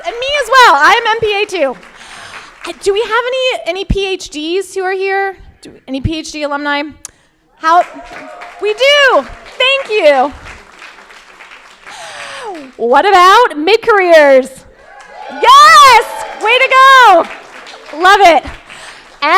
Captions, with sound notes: And me as well. I'm MPA2. (crowd applauding) Do we have any PhDs who are here? Any PhD alumni? (crowd cheers) We do. Thank you. What about mid-careers? (crowd cheers) Yes. Way to go. Love it.